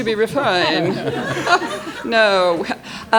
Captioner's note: audience laughs